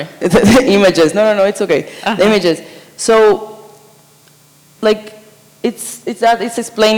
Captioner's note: laughs